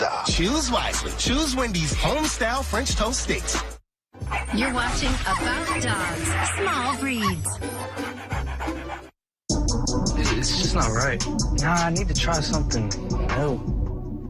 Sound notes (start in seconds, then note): 7.5 dog barking; 10.2 dog breathing heavily